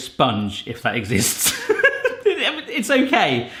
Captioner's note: laughs